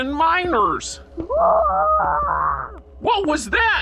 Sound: distant Scream

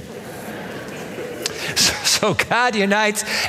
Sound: laughter

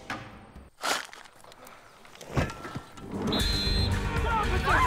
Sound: shovels clanging; whistle blows

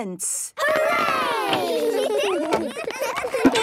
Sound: excited giggling

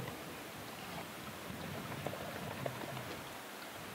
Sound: splashing

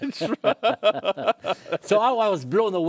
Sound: laughter

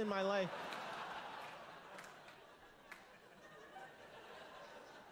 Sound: laughter

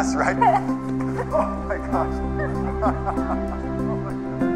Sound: laughs

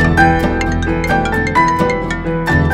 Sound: phone ringing

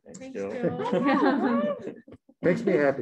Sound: laughs

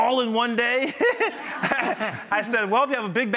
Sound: all laughing

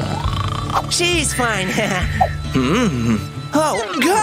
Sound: snoring

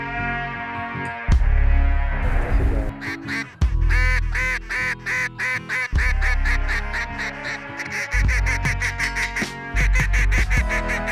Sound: goose calling

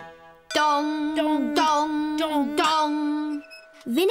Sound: bell dongs

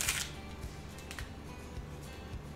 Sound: paper rustling; calming music

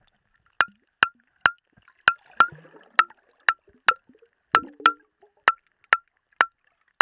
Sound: glass

